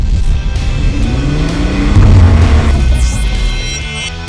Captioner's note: engine revving